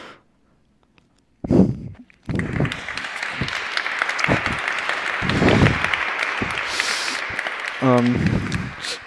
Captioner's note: applause